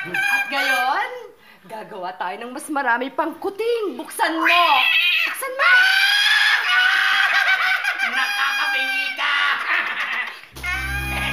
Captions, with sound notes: Now let's make more kittens! -Open it! Open it! -[yowling, cackling] You're so noisy! [laughs]